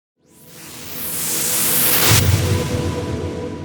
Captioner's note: whooshing